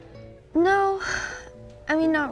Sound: sighs

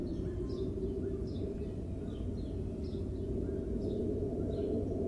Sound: faint and intermittent sound of birds chirping; chirping continues as the wind sighs

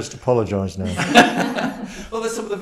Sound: guests laugh

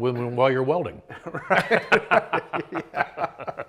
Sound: laughing

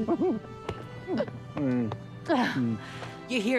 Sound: Corbin mumbles & giggles

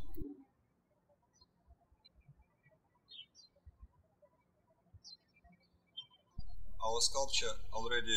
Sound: birds chirping

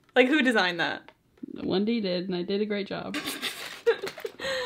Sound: laughs

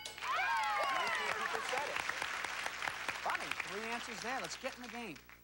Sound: cheers and applause

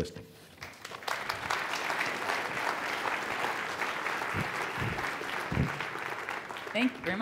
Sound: applause

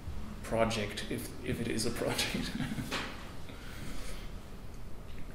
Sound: chuckles

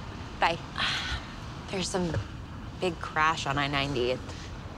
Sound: sighs

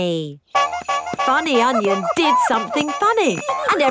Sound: shoes honking

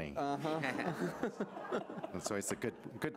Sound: audience laughing

